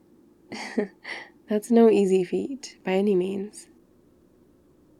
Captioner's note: laughs